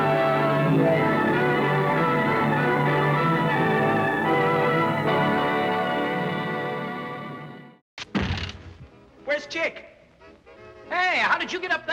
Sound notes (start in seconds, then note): none